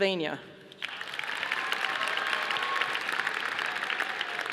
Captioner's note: audience applauding